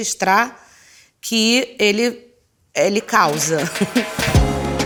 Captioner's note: laughs